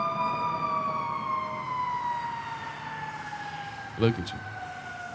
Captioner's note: sirens blaring